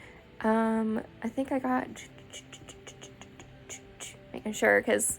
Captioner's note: choo choo noises